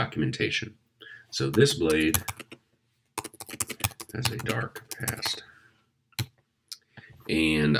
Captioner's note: typing